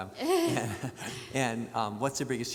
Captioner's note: laughs